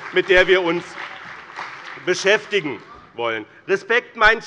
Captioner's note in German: Beifall bei dem BÜNDNIS 90/DIE GRÜNEN und der CDU